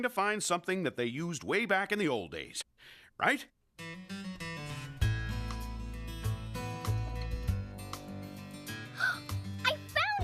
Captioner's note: gasps